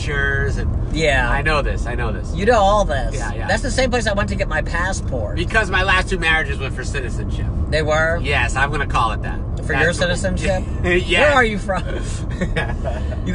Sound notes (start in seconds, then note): 10.2 laughs; 11.8 laughs